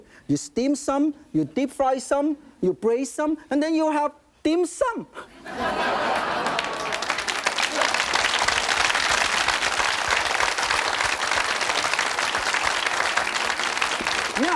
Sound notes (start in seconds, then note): 5.4 audience laughing and applauding